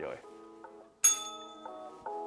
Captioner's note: bell rings